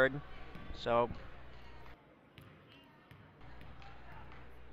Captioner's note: crowd talking